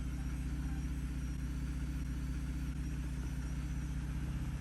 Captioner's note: car engine hums